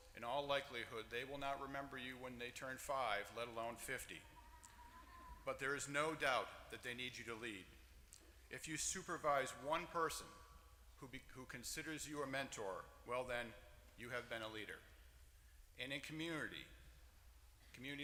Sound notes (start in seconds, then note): none